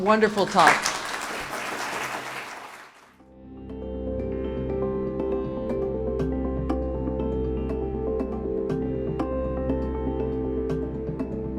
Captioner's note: applause